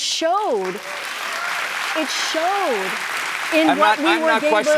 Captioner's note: applause